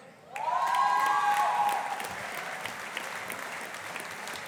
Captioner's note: audience applauding